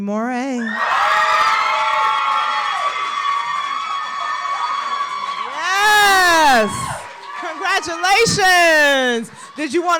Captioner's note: applause